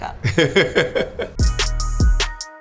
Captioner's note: chuckling; upbeat music